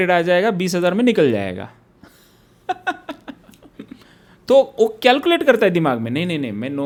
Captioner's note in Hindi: हंसी